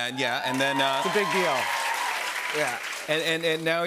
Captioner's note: cheers and applause